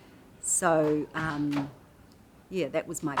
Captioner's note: clatters